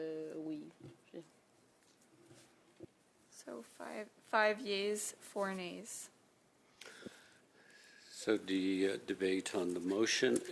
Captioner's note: speaking French